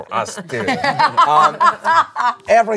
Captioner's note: everyone laughs